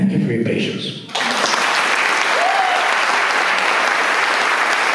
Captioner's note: applause